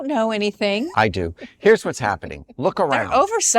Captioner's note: laughs